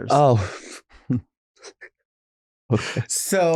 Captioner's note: exhaling